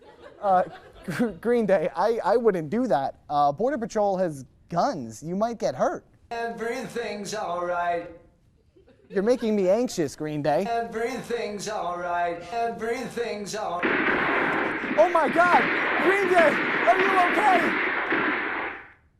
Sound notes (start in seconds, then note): 0.5 laugh; 13.8 explosion sound effect